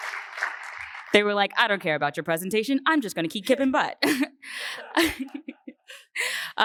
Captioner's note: laughter